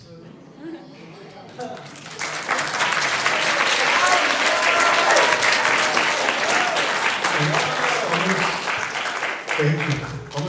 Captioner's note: applause